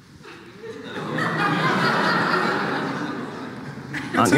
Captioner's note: audience laughing